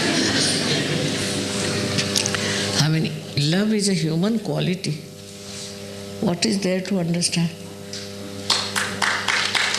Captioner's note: laughter